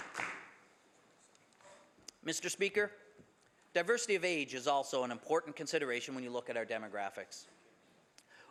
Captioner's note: some Applause